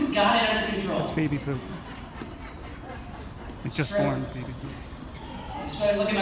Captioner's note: audience laughter